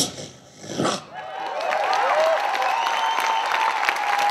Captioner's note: cheering and applause